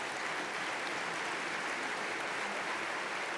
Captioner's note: applause